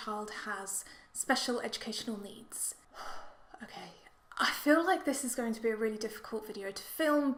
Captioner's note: takes a breath